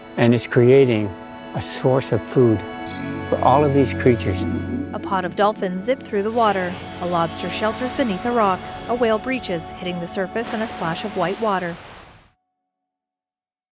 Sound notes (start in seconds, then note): 5.0 water burbling; 6.6 whale exhaling loudly; 10.6 whale splashing